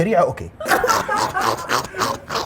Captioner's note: laughter